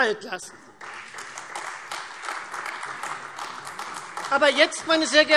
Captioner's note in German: Beifall Freie Demokraten und AfD